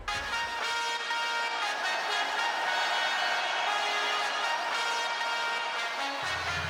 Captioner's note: trumpets blaring; crowd cheers